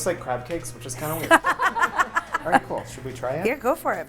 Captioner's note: laughing